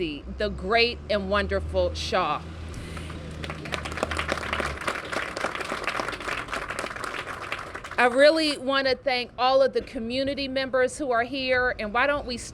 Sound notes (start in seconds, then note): 2.8 applause